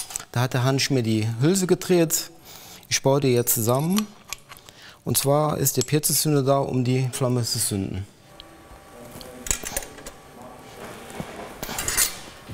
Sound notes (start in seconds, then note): 8.2 machine whirring and voices in the background